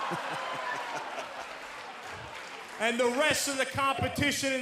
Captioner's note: laughing